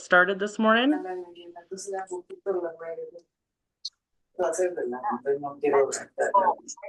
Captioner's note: background chatter